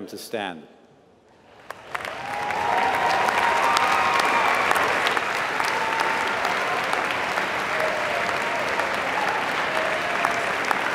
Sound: applause

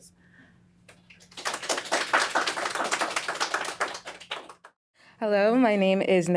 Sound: audience clapping

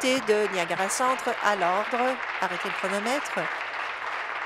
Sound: applause

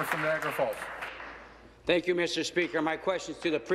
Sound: applause

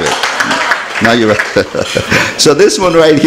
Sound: laughs

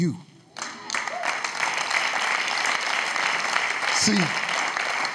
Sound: audience claps

